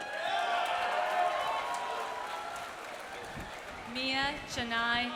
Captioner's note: audience cheering; audience applauding